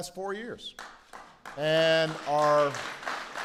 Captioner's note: applause